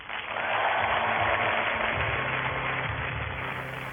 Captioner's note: audience applause